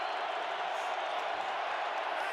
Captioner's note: crowd cheering